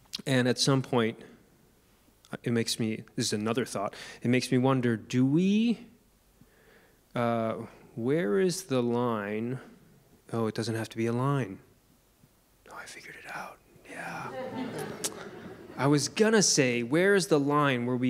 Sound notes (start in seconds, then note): 14.2 audience laughing